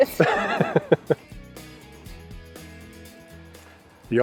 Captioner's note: laughing